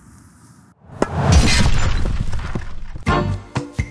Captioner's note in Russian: звук разбитого стекла